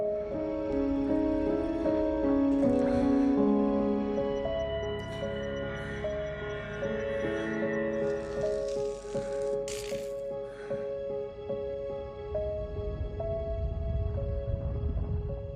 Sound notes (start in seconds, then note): 8.1 electric zapping; 13.4 thunder rumbling